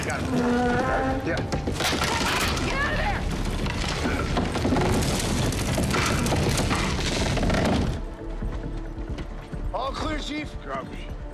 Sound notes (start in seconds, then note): 3.4 ceiling snaps